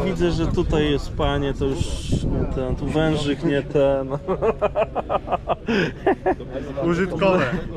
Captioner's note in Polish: śmiech